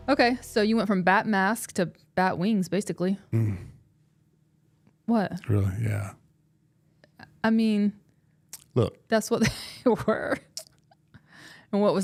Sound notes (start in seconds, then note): 3.3 Mark groans